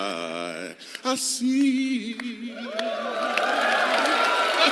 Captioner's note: applause; laughter